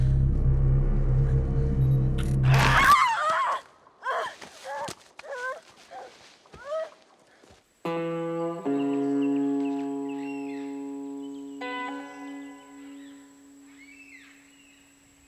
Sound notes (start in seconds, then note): 2.4 Eddy screaming; 7.8 melancholic music